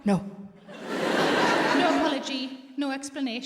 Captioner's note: audience laughs